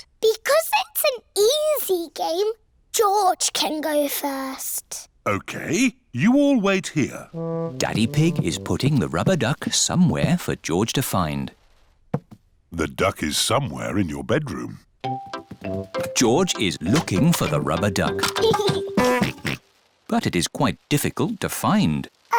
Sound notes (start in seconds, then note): 18.0 giggles and oinks